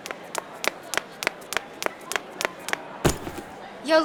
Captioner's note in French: Le bruit de pas précipités